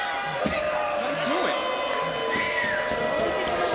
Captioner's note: crowd boos